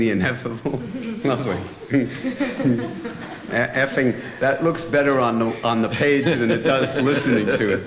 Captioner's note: chuckling